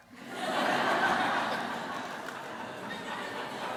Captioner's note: laughter